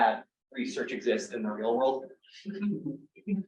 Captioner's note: laughs